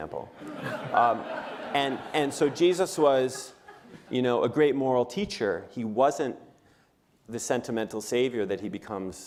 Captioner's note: laughter